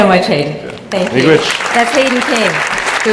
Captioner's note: applause